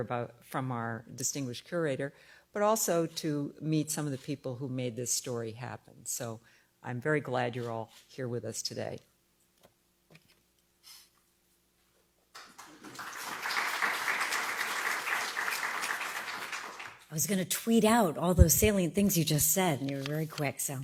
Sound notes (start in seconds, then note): 12.3 applause